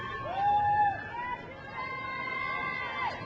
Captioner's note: crowd cheers